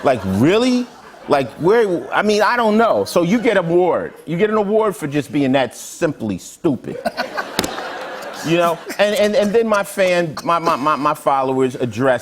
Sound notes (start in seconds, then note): 6.9 laughter